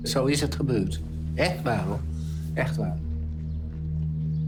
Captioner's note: speaking foreign language